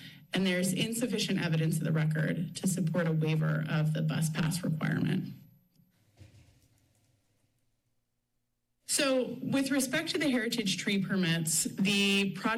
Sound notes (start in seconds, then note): 5.4 pause